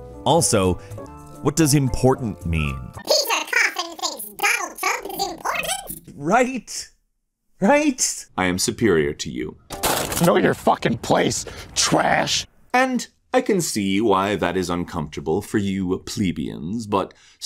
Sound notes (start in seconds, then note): 3.3 in an edited high pitched voice; 9.7 sound of something being put in the trashcan